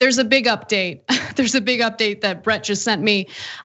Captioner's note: laugh